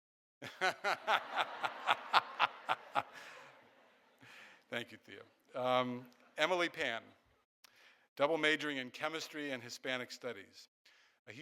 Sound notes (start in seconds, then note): 0.4 laughing; 0.5 audience laughing